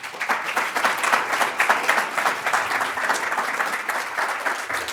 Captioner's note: applause